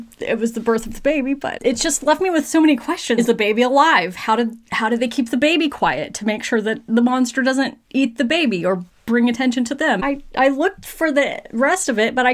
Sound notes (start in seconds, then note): none